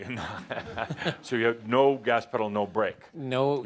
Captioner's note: laughing